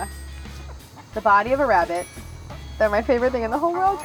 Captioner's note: bell chimes